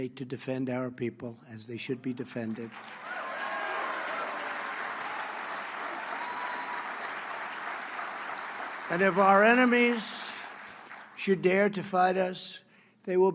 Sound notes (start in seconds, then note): 2.5 applause